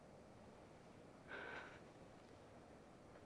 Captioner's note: sighs